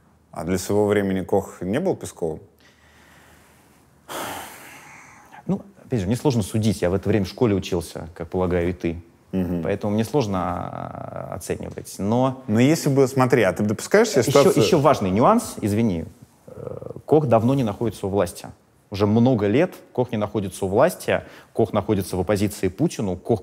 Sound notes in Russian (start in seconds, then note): 4.1 вздох